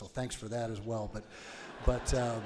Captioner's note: audience laughs